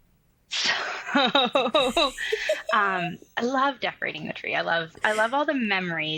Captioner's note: giggles